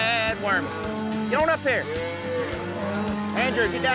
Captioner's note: mooing